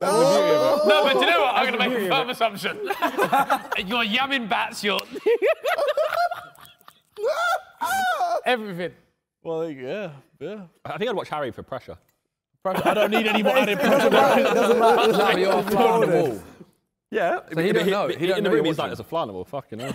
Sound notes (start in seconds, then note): 12.7 men laughing